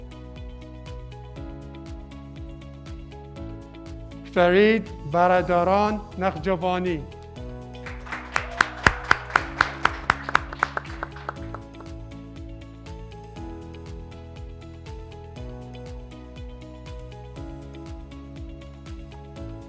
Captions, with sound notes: - Fareed Valadoran Naghgiovani, (graduates clapping) (graduates cheering)